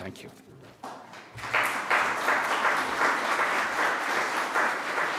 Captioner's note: audience applauding